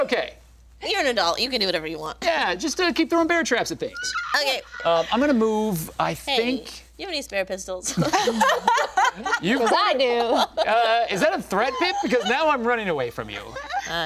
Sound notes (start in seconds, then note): 7.9 group laughing